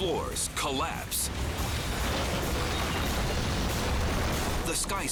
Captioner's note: building crashing